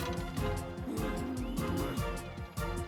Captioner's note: growl